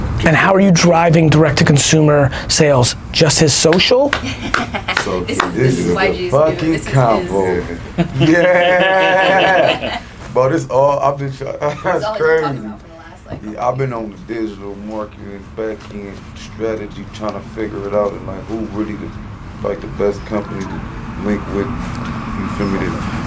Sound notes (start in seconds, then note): 4.9 claps